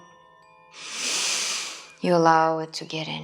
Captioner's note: inhaling